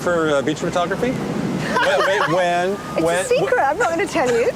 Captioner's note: laughs